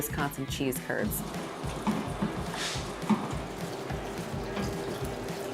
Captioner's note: mill grinding